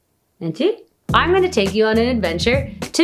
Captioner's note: foreign language